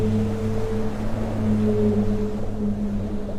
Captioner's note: waves crash; whales sing